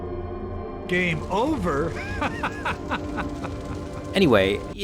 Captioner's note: laughing